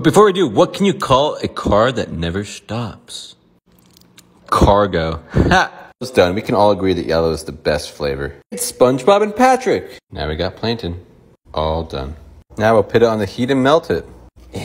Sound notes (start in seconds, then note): 5.4 laughter